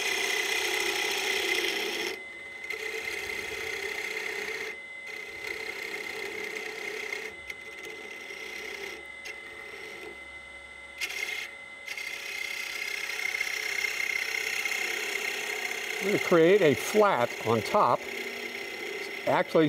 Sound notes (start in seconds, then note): 0.0 wood lathe whirs; 0.8 gouge scrapes